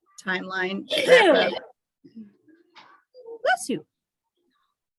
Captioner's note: attendee sneezes